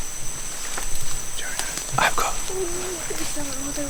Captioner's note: whispering